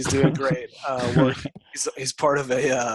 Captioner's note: interviewer laughs